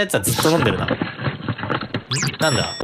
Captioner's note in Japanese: 走る音